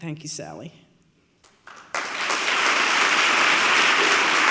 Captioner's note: audience clapping